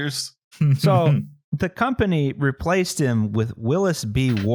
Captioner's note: chuckles